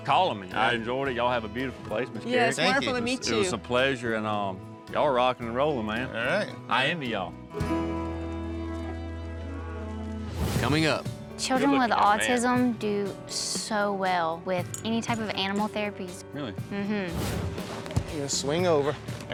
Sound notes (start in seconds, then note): 8.7 cows moo